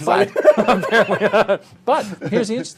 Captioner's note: laughter